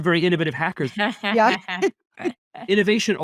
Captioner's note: laughing